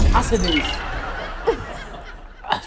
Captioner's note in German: Gelächter